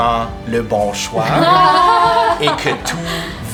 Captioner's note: delighted laughter